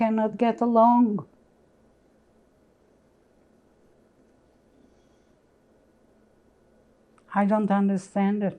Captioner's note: pauses 6 seconds